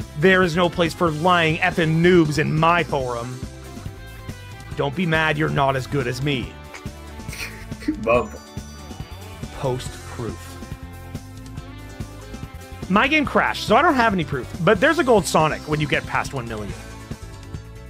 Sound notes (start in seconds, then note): 7.2 erarg laughs